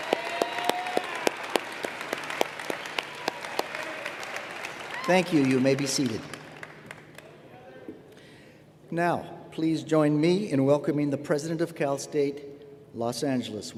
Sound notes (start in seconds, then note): 7.4 applause